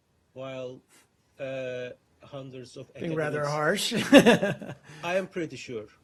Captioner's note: laughter